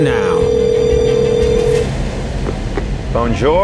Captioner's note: phone rings